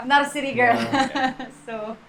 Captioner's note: laughs